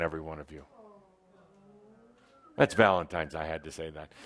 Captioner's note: some in the audience say, “Awww”